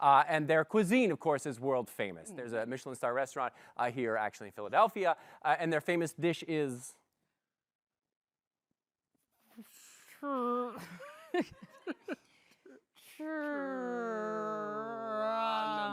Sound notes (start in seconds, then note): 10.8 chuckles